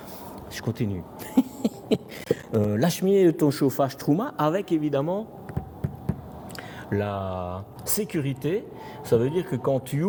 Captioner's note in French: rires